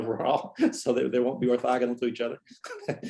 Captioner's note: laughter